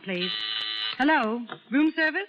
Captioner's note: phone buzzing